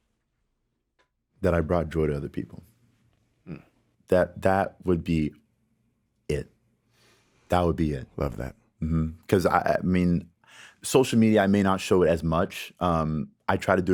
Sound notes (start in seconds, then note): 8.5 inhales deeply